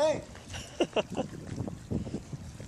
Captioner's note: laugh